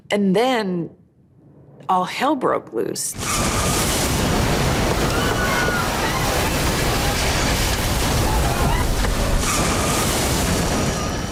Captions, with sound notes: and then all hell broke loose. (trees rustling) (passengers screaming)